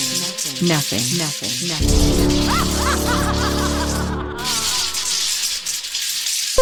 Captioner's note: laughs evilly